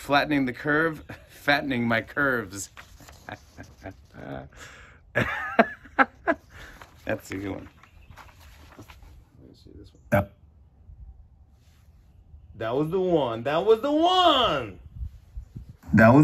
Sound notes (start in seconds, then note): 3.0 chuckles; 5.1 laughs